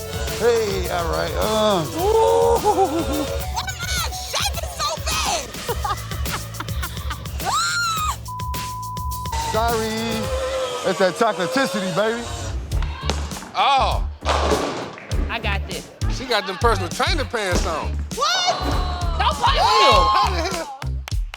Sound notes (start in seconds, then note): 5.5 laughs